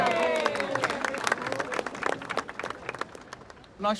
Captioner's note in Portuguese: Aplausos